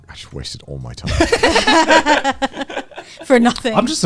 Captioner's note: laughing